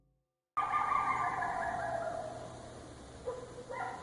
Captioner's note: animal bellowing